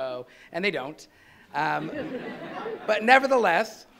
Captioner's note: laughing